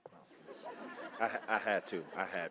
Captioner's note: laughter